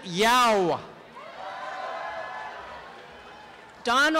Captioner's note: applause and cheering